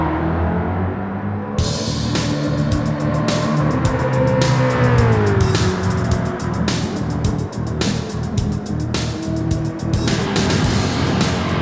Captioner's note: music, engines revving, cars noises